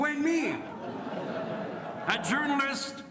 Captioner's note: audience laughs